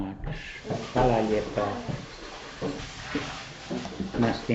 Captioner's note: speaking Croatian